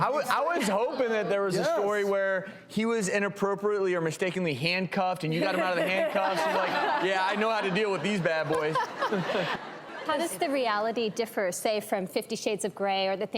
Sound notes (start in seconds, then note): 6.9 laughing; 9.8 audience laughs